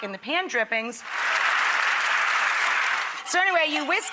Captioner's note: audience applause